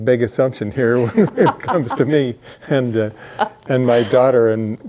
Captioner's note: laughing